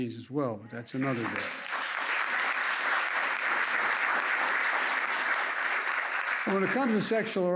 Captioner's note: applause